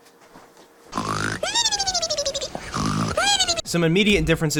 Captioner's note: honk, mimimimimimimimimi, honk mimimimimimimi